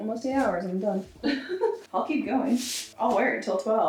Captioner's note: laughs